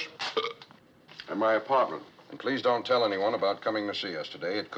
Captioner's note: burps